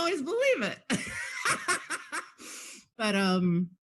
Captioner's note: laughing